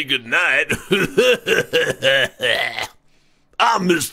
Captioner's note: laughs evilly